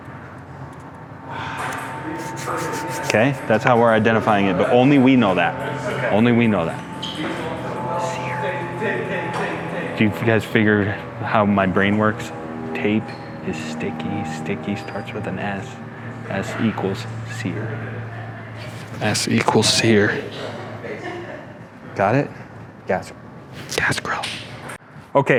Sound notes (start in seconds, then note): 8.4 whispers; 23.7 whispers